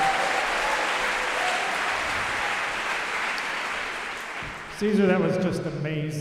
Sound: applause

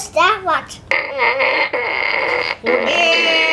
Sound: fart noises

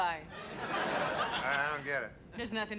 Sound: audience laughing

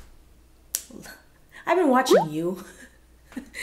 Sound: smacks lips

